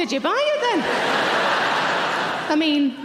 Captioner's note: audience laughing